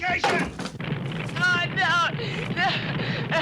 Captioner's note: fire burning